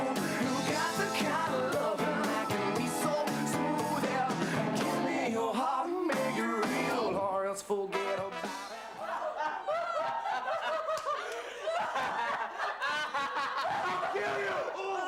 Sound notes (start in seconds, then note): 8.4 laughing